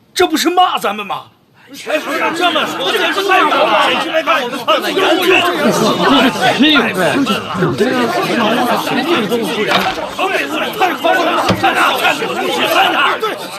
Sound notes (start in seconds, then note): 5.6 wild dogs barking